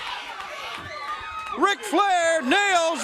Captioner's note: crowd cheering